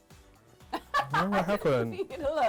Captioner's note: laughs